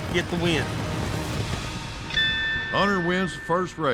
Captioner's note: rings bell